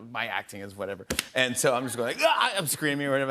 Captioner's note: yells